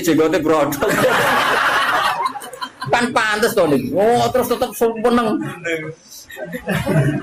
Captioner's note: laughs